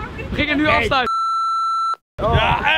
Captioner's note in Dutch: piep